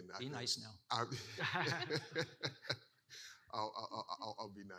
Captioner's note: laughing